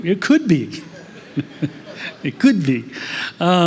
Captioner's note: laughter